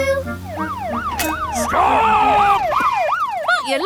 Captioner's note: siren wailing